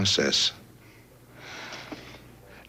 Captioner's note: sigh